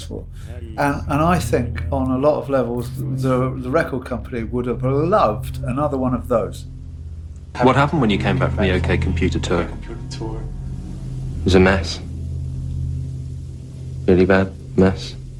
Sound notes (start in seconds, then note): 6.8 soundbite of archived recording